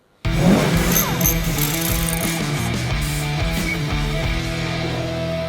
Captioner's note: car engine revving; upbeat music; wrench cranking